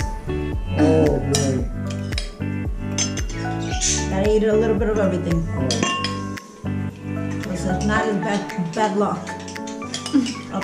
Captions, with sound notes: [chattering...] a little bit of everything otherwise it's bad luck